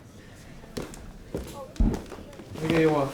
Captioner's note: footsteps clomp down stairs